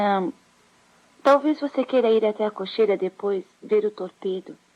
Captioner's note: none